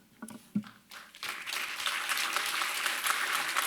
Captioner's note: applause